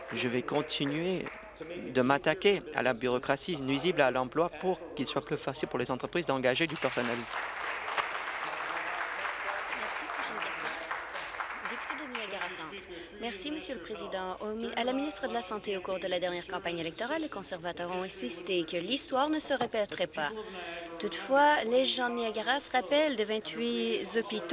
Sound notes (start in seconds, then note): 8.7 applause